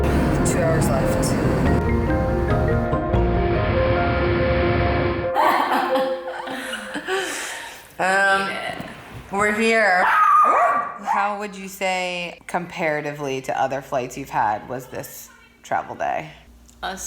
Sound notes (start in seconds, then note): 1.9 gentle music; 5.4 laughs; 10.0 Pepper barks